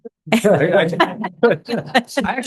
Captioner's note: laughter